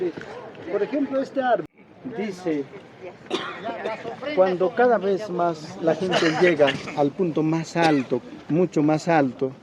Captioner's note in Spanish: carraspeo